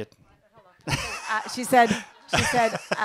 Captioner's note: laugh